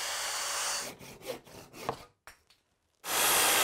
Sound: machine whirring; saw grinding; saw buzzing

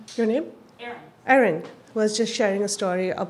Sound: voiceover

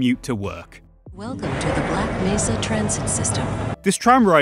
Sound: intercom

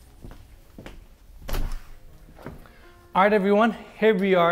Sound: door opens

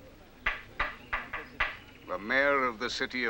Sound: hammer banging

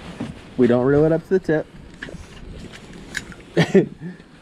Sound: laughs

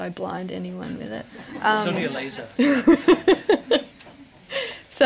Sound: laughter

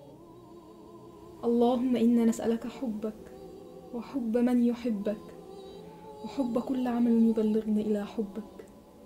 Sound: speaking Arabic

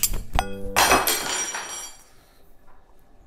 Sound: spoons clatter

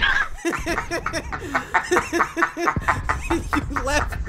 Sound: laughing

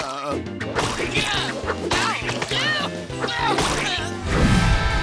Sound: yelling

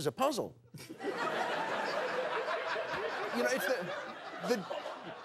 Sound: laughter

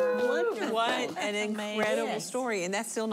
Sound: cheers and applause

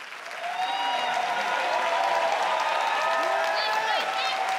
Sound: crowd cheers

